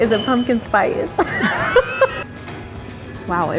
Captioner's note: laughing